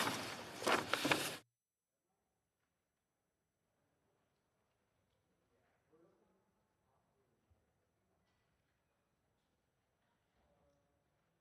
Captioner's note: observing moment of silence